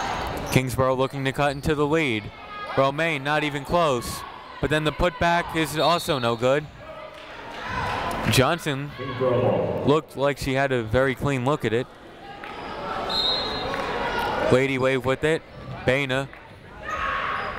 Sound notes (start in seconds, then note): 13.1 whistle tweeting